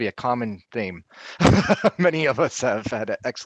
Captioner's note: laughing